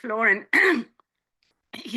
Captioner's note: clearing throat